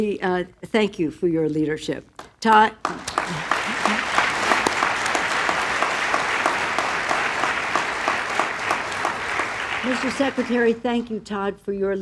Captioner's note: applause